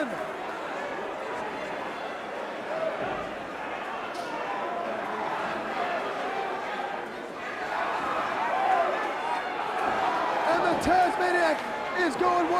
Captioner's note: crowd cheering